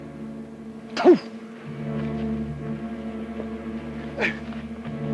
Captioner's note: Red Hawk spits